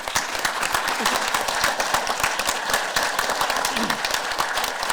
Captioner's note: audience applause